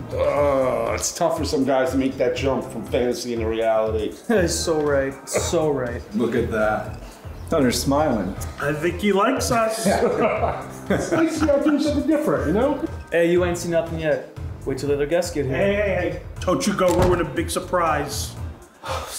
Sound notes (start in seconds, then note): 9.6 men laughing; 18.8 sighs